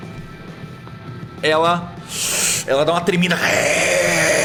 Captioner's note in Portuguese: Grunhido